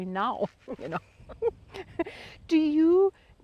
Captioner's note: both chuckling